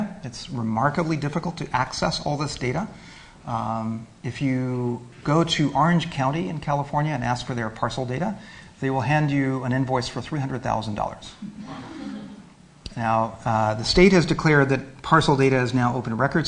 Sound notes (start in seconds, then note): 11.4 laughter